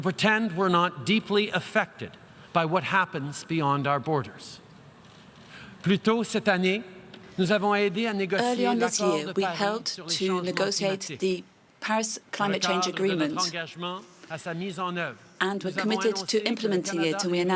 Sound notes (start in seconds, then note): 6.3 speaking French